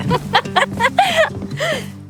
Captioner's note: Max and Chloe laughing